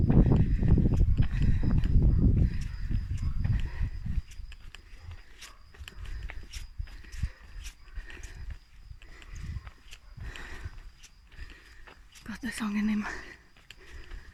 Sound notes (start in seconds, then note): 2.1 dog barking in the background